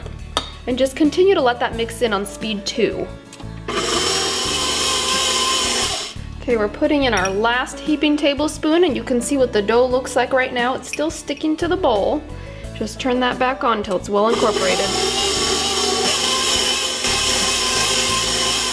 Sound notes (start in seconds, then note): 3.6 mixer motor humming; 14.3 mixer motor humming